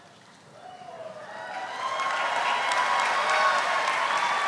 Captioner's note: audience applauding